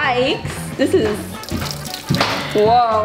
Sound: quirky music; water trickling

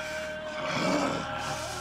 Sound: growls

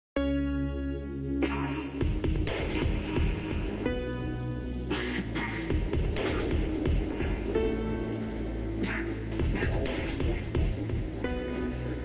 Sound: coughing mixed with laughing

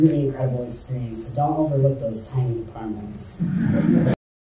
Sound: audience chuckles

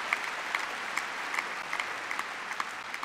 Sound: applause; cheering

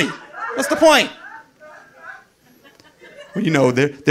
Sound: audience laughing

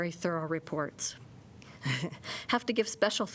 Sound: laughter

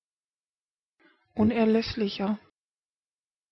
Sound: fast Pronunciation

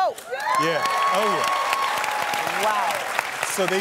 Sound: applause

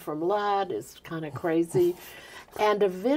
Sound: laughing

